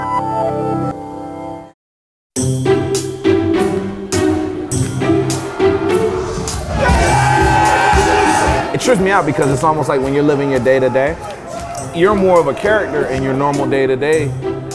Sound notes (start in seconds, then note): 5.4 cheering